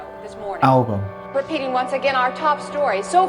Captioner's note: soundbite of archived recording